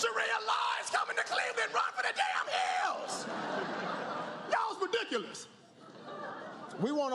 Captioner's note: laughter, applause